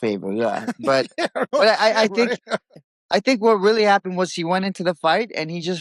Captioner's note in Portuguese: risos